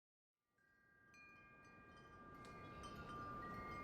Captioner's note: windchimes